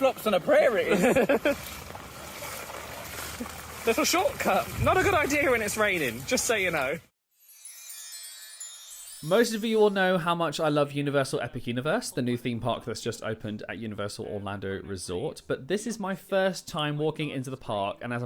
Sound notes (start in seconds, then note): 2.0 water sloshes; 7.3 magical music